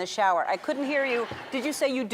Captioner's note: crowd laughing